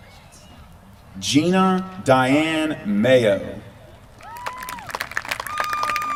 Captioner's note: applause